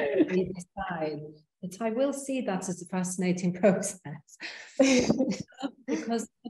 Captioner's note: both laughing